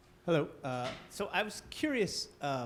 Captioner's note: male Voice